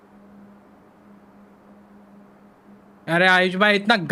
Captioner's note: awkward silence